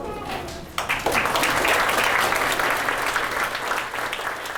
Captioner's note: applause